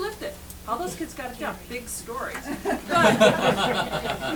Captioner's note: laughter